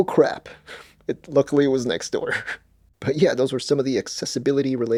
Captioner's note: laughs